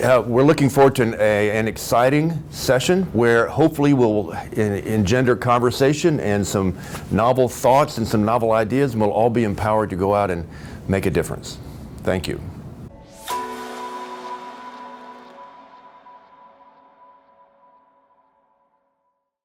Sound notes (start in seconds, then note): 13.0 chime